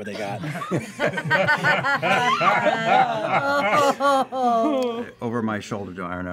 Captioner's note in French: rires